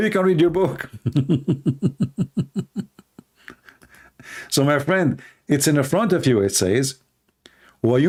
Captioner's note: Ketawa